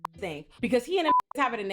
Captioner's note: beep